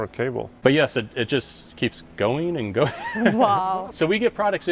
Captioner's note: laughs